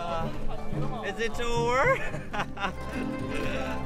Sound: laughs

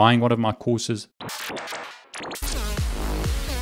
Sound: flickering screen sound

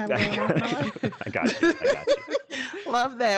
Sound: group laughing

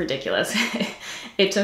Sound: giggles

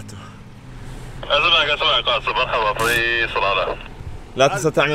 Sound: distinct chatter on the radio

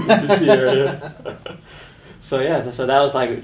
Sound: laughing

